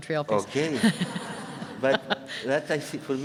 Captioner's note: laughing